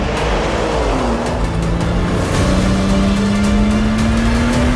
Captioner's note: dramatic music; engine revving